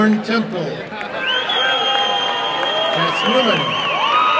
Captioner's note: applause and cheering